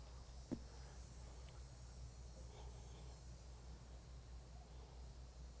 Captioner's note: silence, bugs buzzing